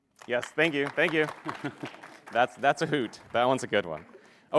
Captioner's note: applause